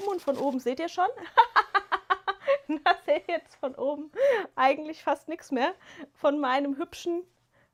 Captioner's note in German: gelächter